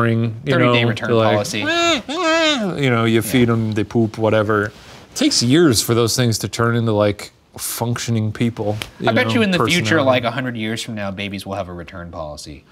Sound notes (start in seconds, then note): 1.3 mimics baby crying